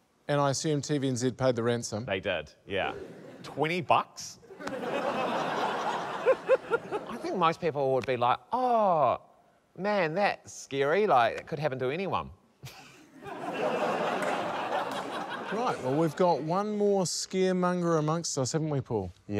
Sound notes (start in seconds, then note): 4.5 laughter; 12.6 laughter; 13.0 laughs